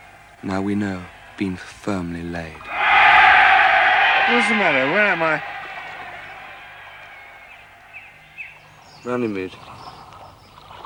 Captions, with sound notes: now we know, been firmly laid. (PEOPLE REJOICING) What is the matter? Where am I? Runnymede.